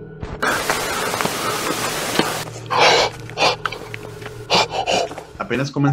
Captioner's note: sound of footsteps nearby